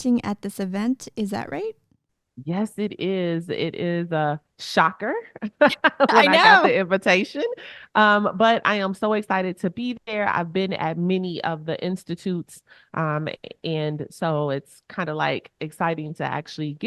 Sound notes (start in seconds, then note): 5.5 chuckles